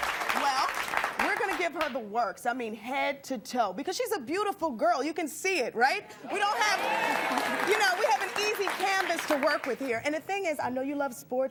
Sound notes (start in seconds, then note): 6.4 audience applauding